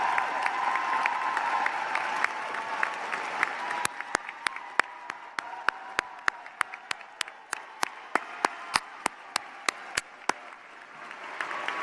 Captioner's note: cheers and applause